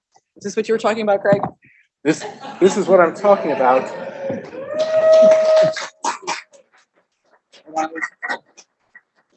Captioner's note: applause